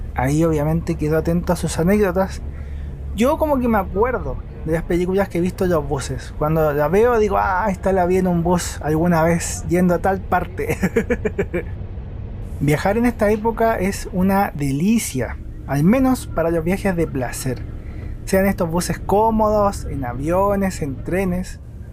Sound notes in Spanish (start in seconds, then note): 10.6 risas